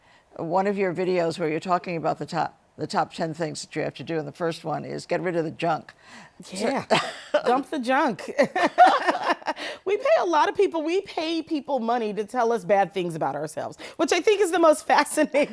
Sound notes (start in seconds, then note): 10.1 laughter